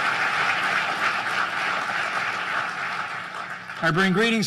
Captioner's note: applause